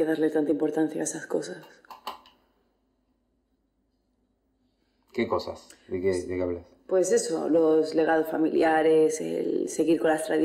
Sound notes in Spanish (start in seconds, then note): none